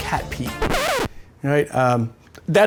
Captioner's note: record scratching